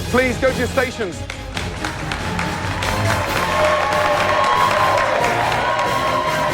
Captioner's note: cheers and applause